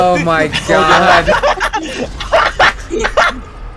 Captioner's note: manic Laughter